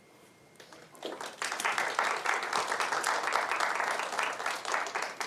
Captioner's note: applause